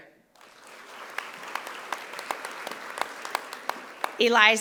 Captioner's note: audience applauding